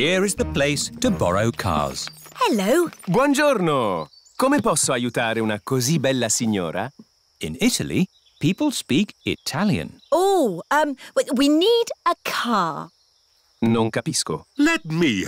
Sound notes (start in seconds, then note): 4.4 speaks italian; 13.7 replies in italian